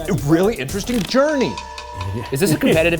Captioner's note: ominous music; laughing